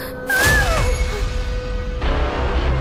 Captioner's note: screaming